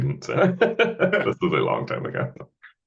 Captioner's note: laughing